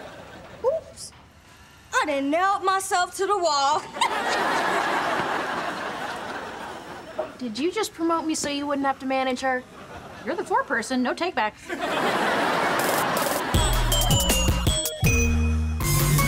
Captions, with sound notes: Whoops. I done nailed myself to the wall. [laughing] Did you just promote me so you wouldn't have to manage her? You're the foreperson. No take backs.